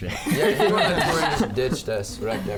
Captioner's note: everybody laughs